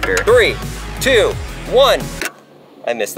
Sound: click

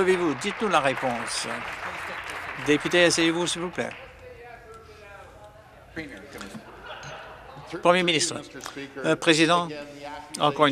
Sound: some Applause

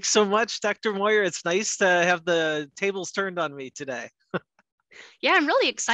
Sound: laughs

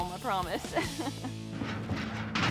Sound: laughs

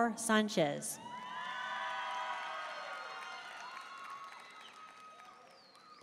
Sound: audience cheering and applauding

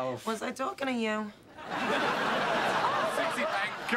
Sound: laughter

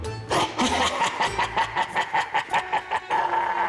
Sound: laughs maniacally

